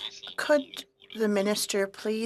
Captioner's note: speaking French